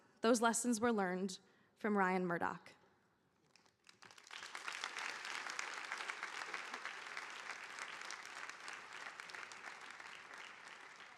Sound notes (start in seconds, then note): 3.5 audience applauding